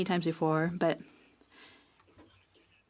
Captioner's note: speaking French